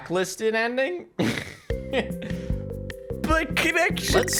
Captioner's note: laughs